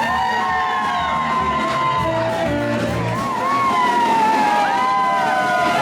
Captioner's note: everyone cheering and clapping